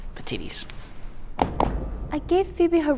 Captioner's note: Law & Order-esque transition sound